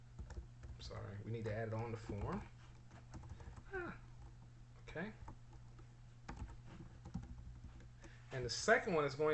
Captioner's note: typing sounds